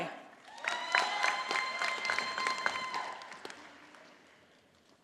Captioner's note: audience applauding